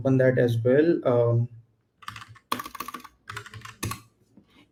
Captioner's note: keyboard clacking